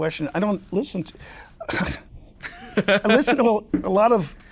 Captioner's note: laughs